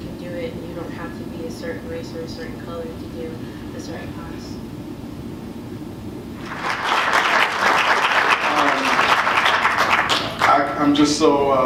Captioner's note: applause